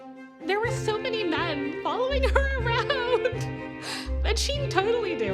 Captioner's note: laughing